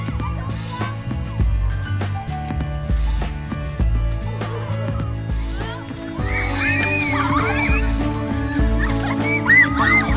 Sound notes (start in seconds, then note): 4.2 balloons splatting; 4.3 campers excitedly shouting